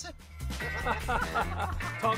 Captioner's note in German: Gelächter